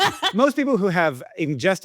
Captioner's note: Akilah laughing